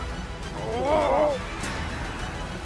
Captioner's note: groans